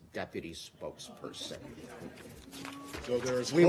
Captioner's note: laughter